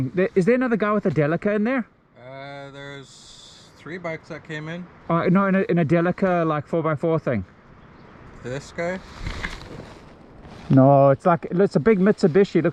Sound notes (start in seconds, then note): none